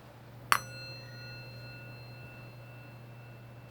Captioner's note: metal dings